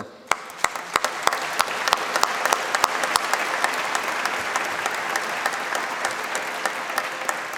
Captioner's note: applause